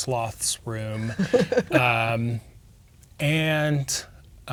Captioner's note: laughing